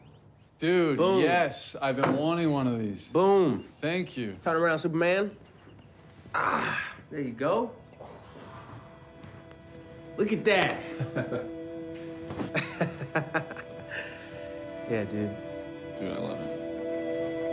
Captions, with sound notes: Dude, yes. Boom. I've been wanting one of these. Boom. Thank you. Turn around, Superman. Ah. There you go. Look at that. (Tyler chuckles) (laughing) Yeah, dude. Dude, I love it.